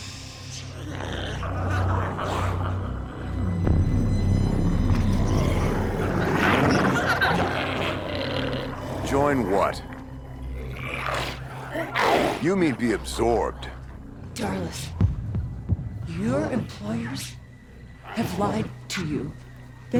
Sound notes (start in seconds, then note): 0.0 glowzies growling; 4.1 intense music; 11.1 glowzies growling